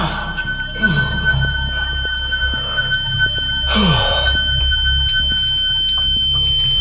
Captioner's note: Dave sighs; shrill tone blaring; Dave groaning